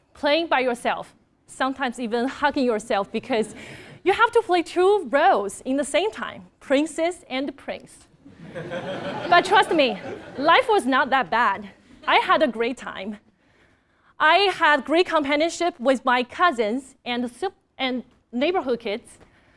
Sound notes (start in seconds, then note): 8.4 laugh